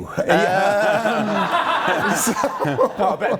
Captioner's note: laughs